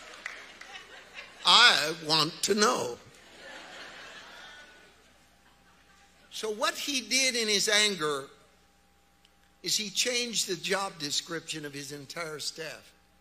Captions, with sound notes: I want to know. (audience laughs) So what he did in his anger is he changed the job description of his entire staff.